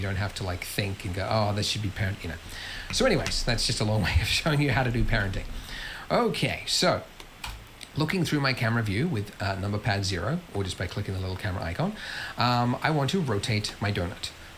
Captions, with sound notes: And you don't have to think and go, oh, this should be parent-- so anyways, that's just a long way of showing you how to do parenting. [LAUGHS] So looking through my camera view with number pad zero, or just by clicking the little camera icon, I want to rotate my doughnut.